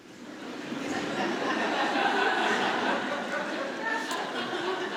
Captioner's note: audience laughing